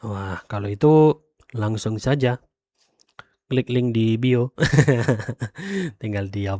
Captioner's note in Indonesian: tertawa